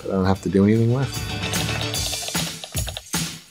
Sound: upbeat holiday music; keyboard typing

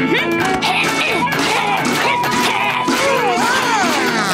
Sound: grunting

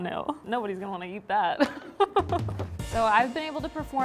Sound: laughs

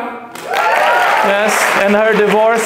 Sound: claps; shouts

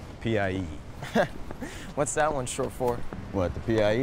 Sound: chuckles

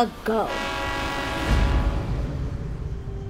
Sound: train horn blares

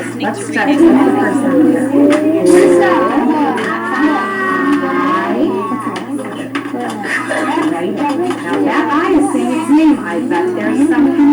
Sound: indistinct classroom chatter

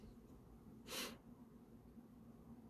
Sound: breath

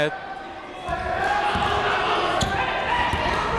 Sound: chatter

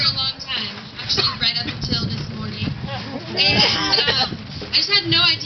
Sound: chuckles

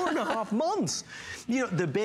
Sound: laughter

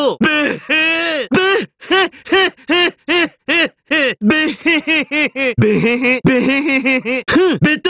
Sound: laugh

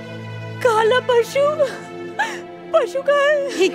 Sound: sobs

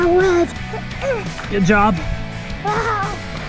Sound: grunts

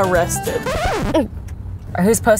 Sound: record scratching

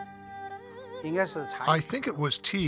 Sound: speaking Chinese

